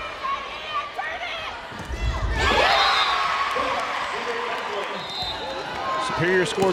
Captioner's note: crowd and players cheering